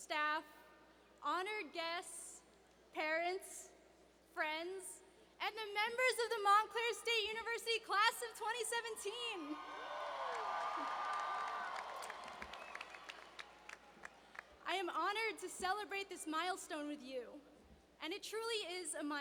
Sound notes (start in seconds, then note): 12.0 cheers and applause